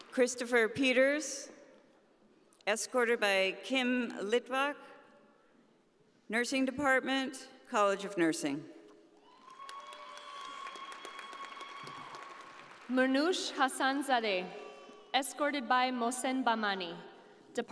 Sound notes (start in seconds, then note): 9.3 audience applauding